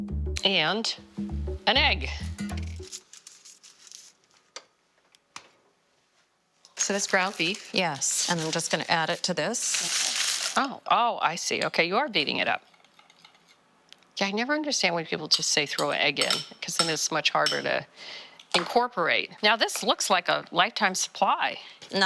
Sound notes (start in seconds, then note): 9.7 paper rustling